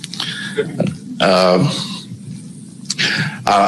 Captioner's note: laughter